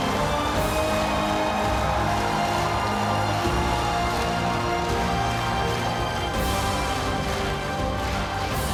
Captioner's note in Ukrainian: оплески